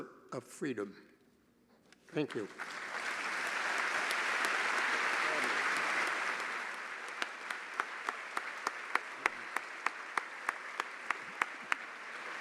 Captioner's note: applause